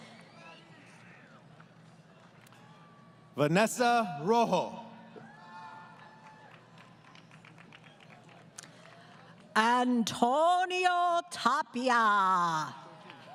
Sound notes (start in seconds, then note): 1.5 applause; 5.1 crowd Cheering; 12.9 applause